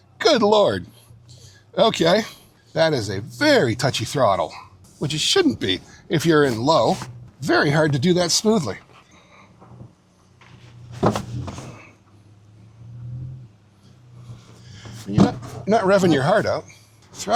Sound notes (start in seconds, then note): 10.9 engine whirring